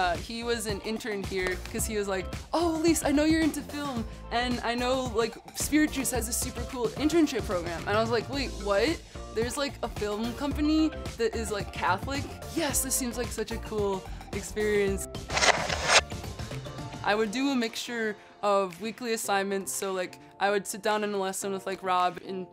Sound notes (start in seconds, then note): 15.3 text whooshing